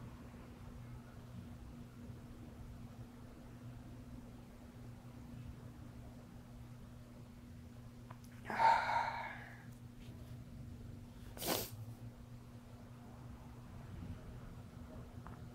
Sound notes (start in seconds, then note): 8.4 sighing; 11.2 sniffling